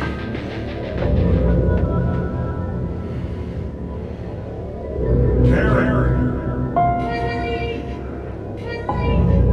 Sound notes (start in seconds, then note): 4.9 Bruce's voice